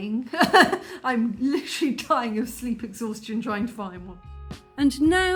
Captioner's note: laughing